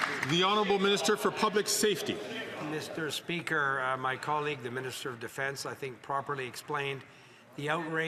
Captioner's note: some Applause